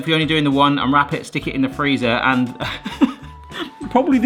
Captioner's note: laughs